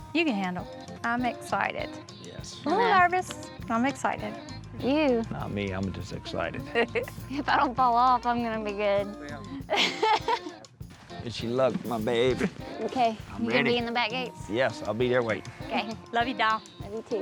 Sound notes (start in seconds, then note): 9.6 chuckles